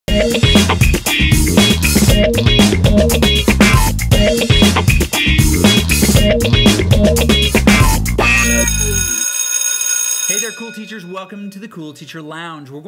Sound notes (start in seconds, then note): 0.0 funky music; 8.4 school bell ringing